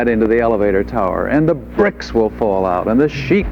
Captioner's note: audience laughs